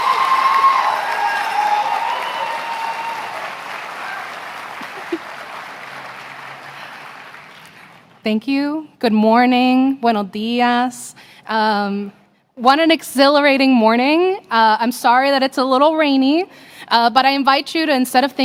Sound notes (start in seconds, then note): 1.1 applause; 2.3 cheering; 3.3 applause